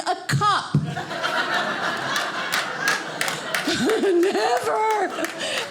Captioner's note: audience applauding